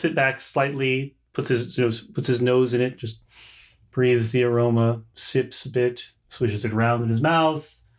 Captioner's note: inhales audibly